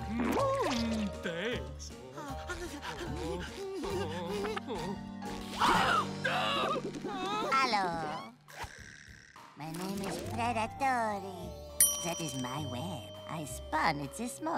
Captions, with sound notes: Thanks. [breathing nervously] [whimpering] - [gasps] - [shouts] Hello. My name is Preda Tory. That is my web. I spun it this morning.